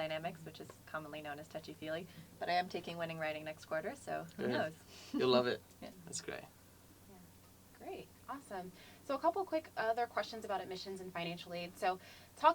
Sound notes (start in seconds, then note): 4.8 laugh